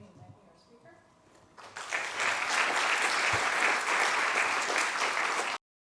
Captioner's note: applause